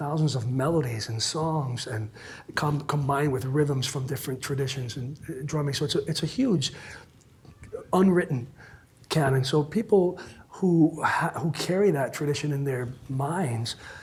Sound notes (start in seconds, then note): none